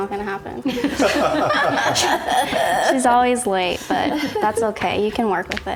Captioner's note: laughs